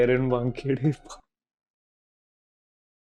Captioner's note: laughing